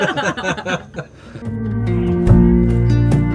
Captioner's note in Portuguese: risos